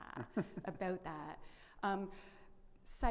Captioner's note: laughs